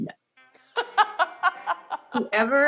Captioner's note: laughs